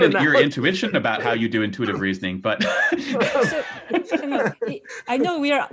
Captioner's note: laughs